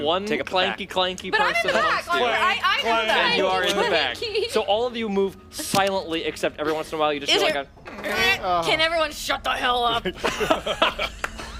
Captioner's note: creak